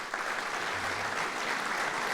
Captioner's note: applause